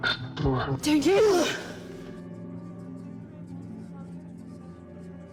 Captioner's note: whispering